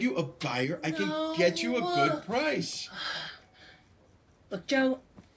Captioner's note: sighs